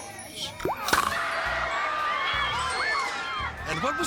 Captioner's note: gator jaws crunches; audience gasping and screaming